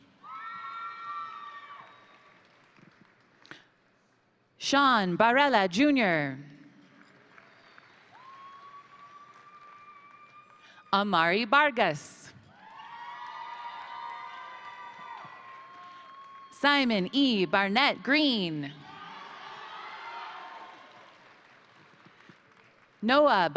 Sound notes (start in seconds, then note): 0.2 crowd cheering; 0.7 crowd applauding; 6.8 crowd applauding; 7.0 crowd cheering; 12.5 crowd cheering; 12.5 crowd applauding; 18.6 crowd cheering; 18.8 crowd applauding